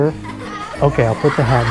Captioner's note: children laughing